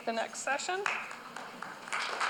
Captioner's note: applause